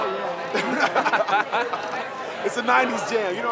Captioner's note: both laughing